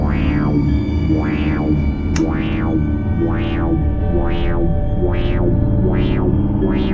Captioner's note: distorted sound accelerating